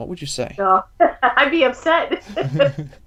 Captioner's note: laughs